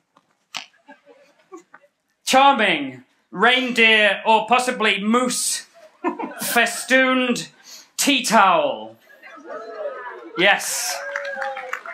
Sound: applause

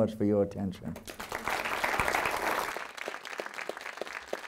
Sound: audience clapping

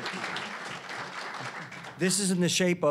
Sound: applause

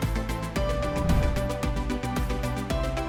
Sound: bright upbeat music continues; air whooshing; bright upbeat music continues

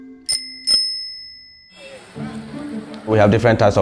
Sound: bell Dings

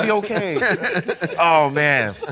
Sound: laughing

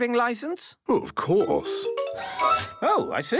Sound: mechanical arm whirring

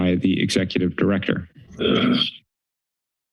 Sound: clears throat

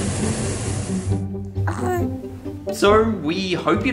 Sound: air balloon heat whooshing

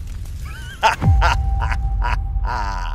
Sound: laughter

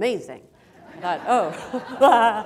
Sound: laughter

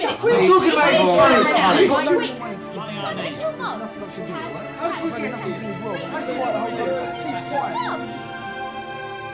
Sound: everyone shouting at once

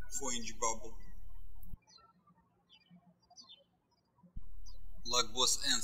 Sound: birds chirping

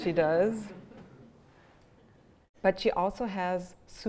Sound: laughter

